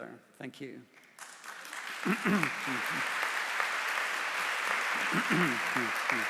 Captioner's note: applause